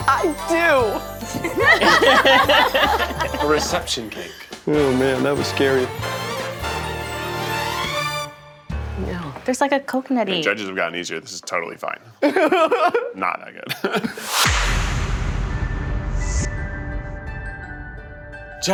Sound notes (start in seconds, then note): 1.2 all laughing; 6.0 playful music; 14.4 suspenseful music